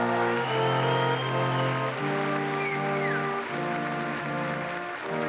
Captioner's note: applause